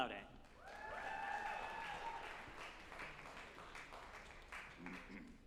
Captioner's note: group applauding and cheering